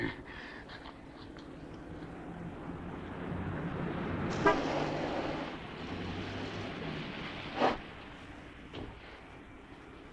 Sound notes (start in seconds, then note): 1.8 car engine rumbling; 4.3 car horn honks